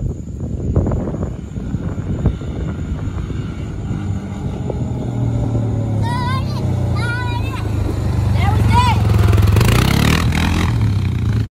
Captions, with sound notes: - Hey you, Anna - That was good (engine revs)